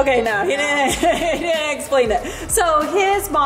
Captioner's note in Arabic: يضحك